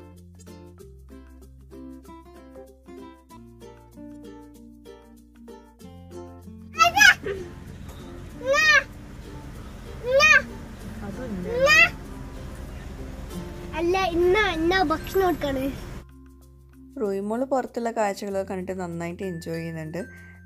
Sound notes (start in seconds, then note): 6.6 baby gibberish